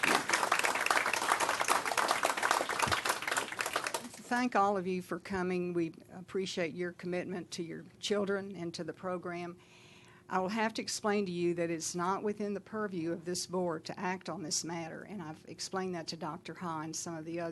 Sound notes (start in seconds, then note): 2.2 applause